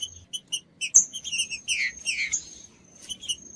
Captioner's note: trinca ferro cantando